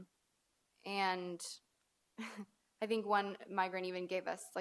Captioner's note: chuckles softly